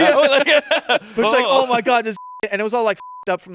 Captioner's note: beep